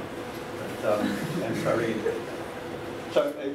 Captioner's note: laughter